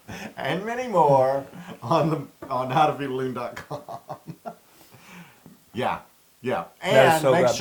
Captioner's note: laugh